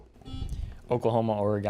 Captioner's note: buzzer beeping